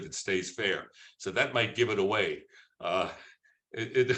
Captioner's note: laughs